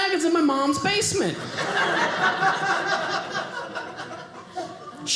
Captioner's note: audience laughing